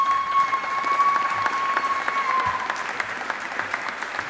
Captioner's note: audience applauding